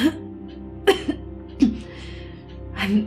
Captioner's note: coughing